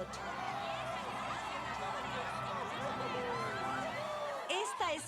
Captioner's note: cheers